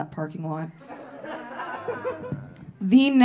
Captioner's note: audience laughing